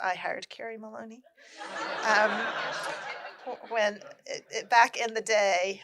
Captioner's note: laughter